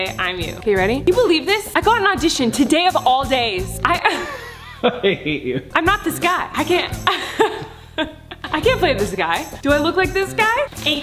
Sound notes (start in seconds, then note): 3.9 laughing; 7.0 laughing